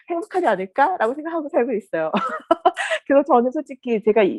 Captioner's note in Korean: 웃음